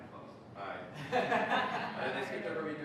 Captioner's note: laughter